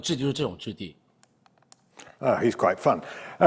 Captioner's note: mouse clicks